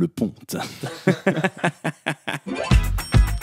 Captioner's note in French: rire